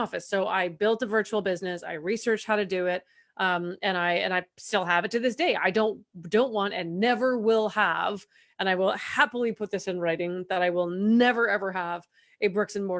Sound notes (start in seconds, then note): none